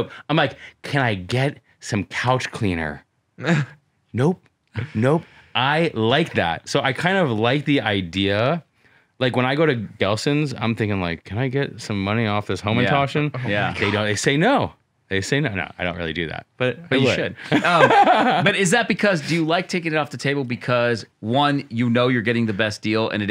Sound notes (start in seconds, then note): 17.4 laughter